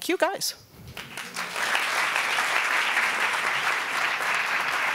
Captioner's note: applauding